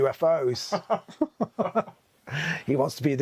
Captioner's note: both laughing